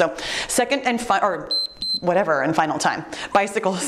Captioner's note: timer beeps